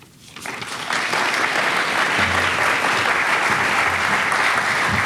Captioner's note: audience applauding